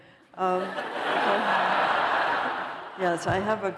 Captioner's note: laughter